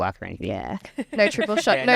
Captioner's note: laughing